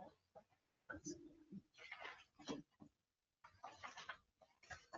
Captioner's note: members chattering